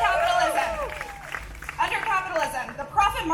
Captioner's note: AUDIENCE: Cheering; cheering